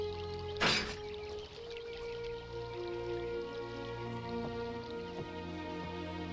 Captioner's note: trap clangs; tense music softens